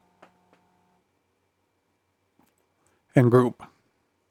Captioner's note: silence